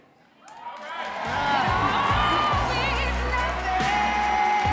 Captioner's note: audience clapping and cheering